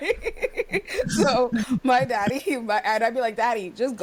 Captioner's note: laughs